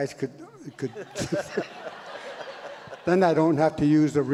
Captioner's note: audience laughs